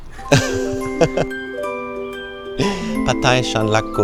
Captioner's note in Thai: เสียงหัวเราะ